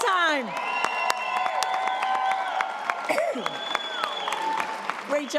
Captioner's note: audience applause